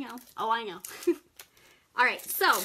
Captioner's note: chuckles